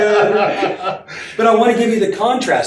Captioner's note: laughing